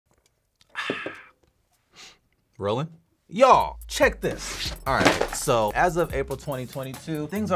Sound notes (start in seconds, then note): 0.2 exhales sharply